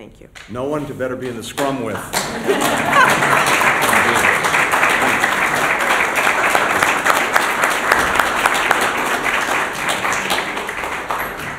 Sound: laughter; applause

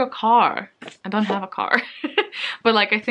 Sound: laughs

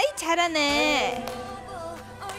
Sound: tired

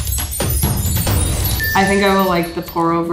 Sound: exciting music; bell dings

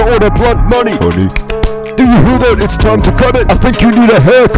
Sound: 3x clap

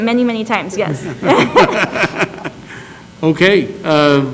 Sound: laugh

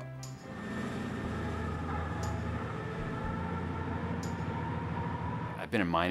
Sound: truck driving away

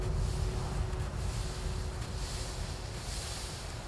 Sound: wind whispering

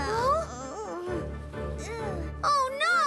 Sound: Hogi groans; sighs

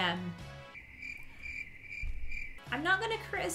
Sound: crickets chirping

